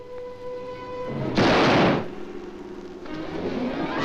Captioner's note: gun firing; suspenseful orchestral music